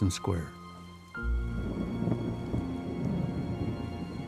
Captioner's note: thunder rumbling